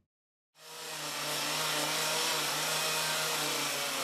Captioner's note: chainsaw buzzing